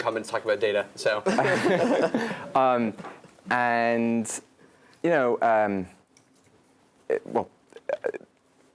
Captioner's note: laugh